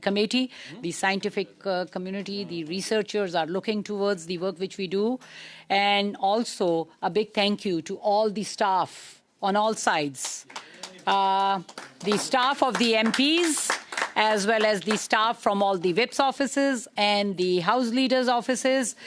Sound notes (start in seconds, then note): 14.1 applause